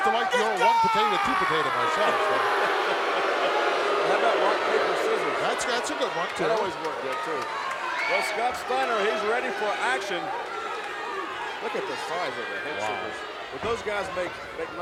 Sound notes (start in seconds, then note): 3.2 audience booing; 3.2 laughs